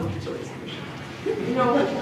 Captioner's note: laughter